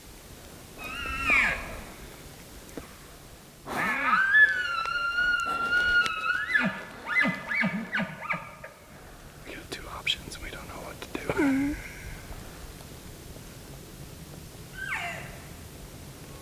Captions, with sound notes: (Caller cow calling) (Caller bugling) We've got two options and we don't know what to do. (Caller cow calling)